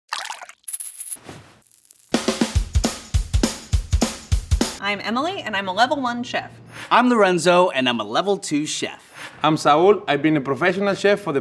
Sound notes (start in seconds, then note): 0.1 liquid sloshing; 0.5 food sprinkling; 2.2 upbeat music